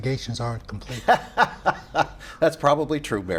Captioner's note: laughs